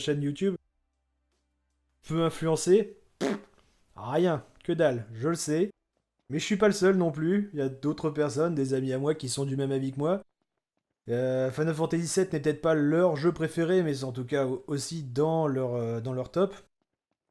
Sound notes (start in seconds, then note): 2.9 scoffing in croissant speak